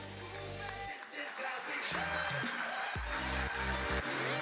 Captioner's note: audience applauding; upbeat music